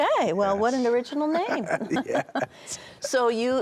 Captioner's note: laughs